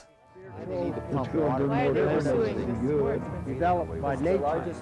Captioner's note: chatter